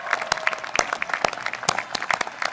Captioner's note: applause